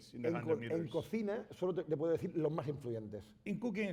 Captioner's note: speaking spanish